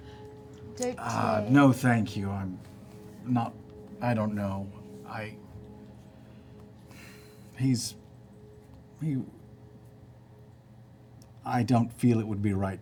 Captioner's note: laughs; sighs